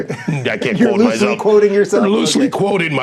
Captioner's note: laughing